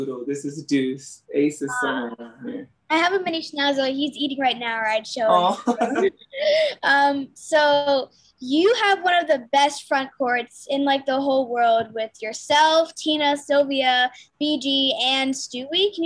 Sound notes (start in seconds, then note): 5.3 A'ja laughs